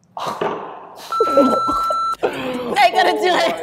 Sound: beep

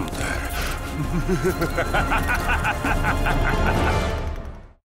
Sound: sinister laughing

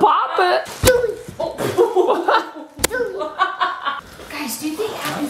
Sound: laughs

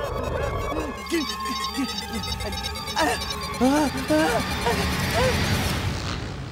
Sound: groaning; beeping, groaning; buzzing

